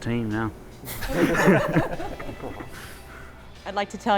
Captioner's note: laughs